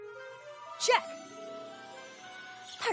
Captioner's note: tinkling